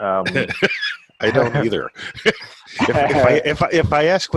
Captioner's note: laughing